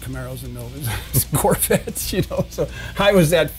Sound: laughs

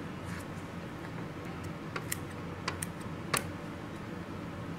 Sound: clipping sounds; clipping sounds

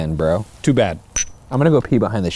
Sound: glass clinks

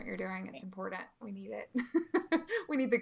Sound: laughing

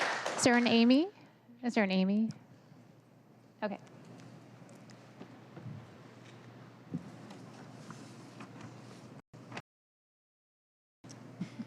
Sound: applause

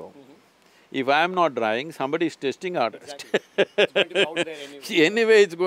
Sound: laughs

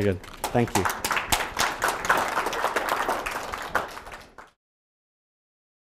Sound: audience applauding

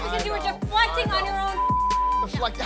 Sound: beep

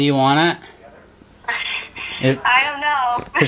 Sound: laughs

